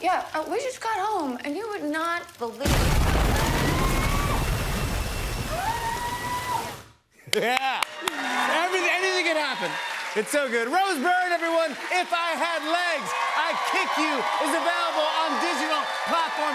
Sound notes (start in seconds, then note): 3.2 screaming